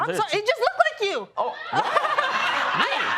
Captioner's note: laughter